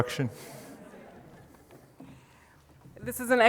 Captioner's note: audience laughs